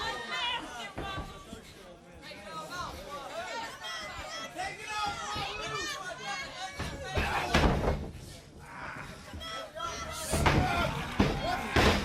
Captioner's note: crowd chatter